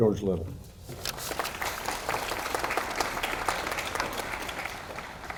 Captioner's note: audience applauding